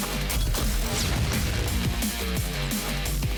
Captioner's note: gunfire blasts